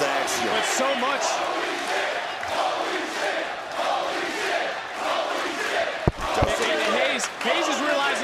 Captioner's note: crowd chants "holy --"